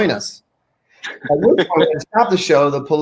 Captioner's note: laughing